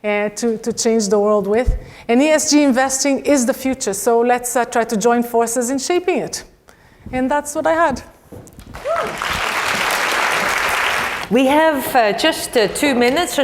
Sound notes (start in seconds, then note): 8.7 applause